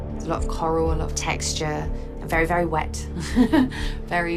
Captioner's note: laughs